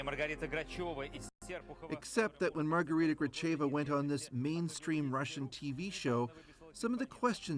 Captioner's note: speaking russian